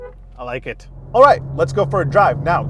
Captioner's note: horn honking; engine roaring